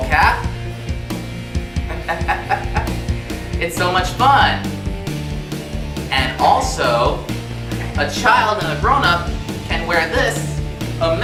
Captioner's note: laughs